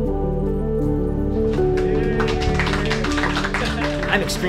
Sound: clapping

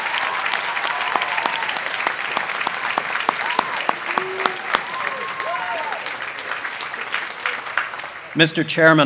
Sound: applause

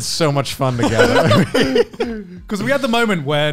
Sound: laughing

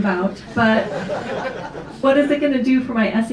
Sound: audience laughs

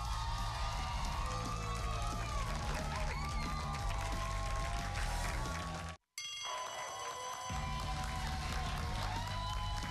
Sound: cheers and applause

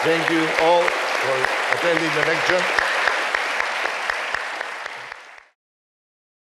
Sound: audience applauding

